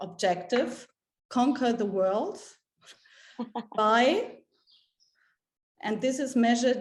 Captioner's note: laughs